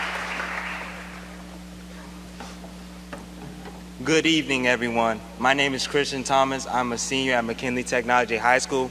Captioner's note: applause